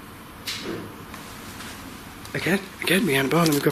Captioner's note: clank